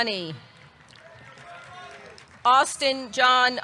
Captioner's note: audience clapping; audience cheering